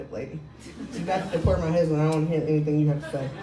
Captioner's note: crowd laughing